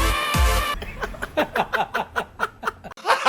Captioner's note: laughter